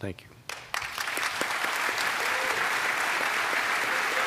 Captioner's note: applause